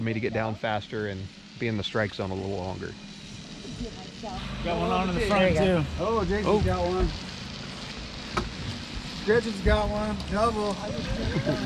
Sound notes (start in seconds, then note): 3.3 boat engine idling